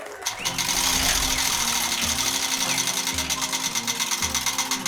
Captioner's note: applause